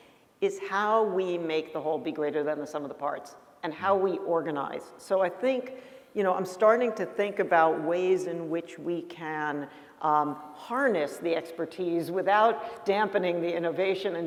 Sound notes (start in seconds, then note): none